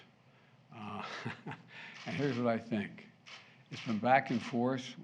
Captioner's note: laughs